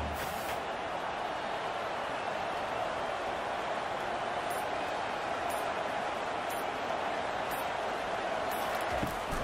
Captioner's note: crowd cheering